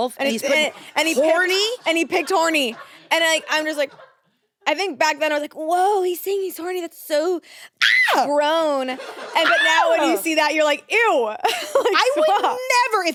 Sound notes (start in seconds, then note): 7.8 screams